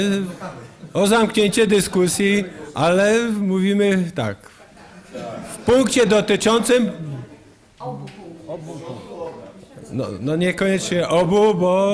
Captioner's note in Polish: głosy z sali